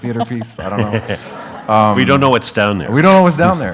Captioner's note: audience laughs